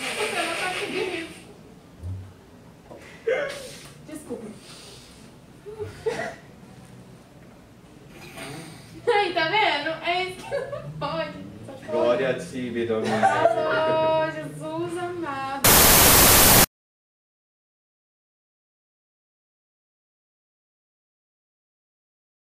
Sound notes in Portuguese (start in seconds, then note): 4.8 silêncio; 8.1 risadas; 15.6 chiado